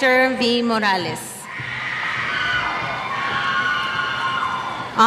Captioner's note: cheers